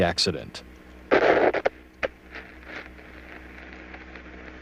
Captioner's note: radio static